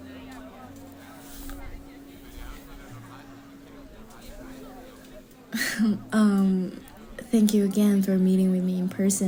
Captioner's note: nervous laugh